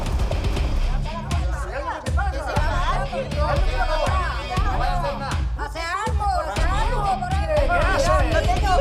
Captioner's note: murmuring. People speaking at the same time